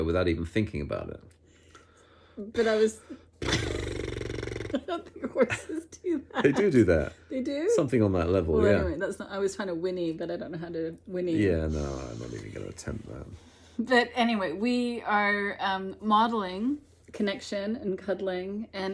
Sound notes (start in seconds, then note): 3.4 mimics horse noise; 6.3 laughs